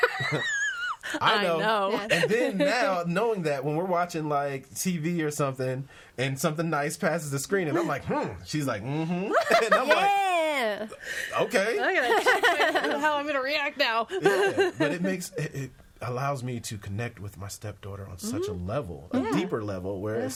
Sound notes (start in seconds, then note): 0.0 laughs; 9.2 laughs; 11.9 all laughing